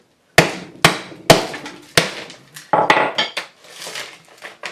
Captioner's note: hammer pounding